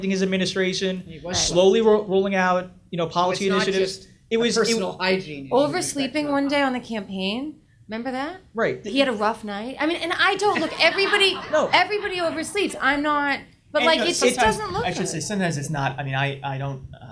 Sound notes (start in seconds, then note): 10.4 audience laughs